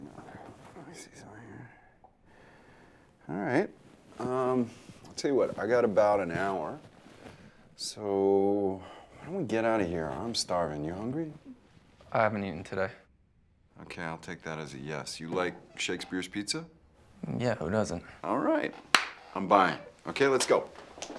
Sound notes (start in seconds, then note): 18.9 Jeff claps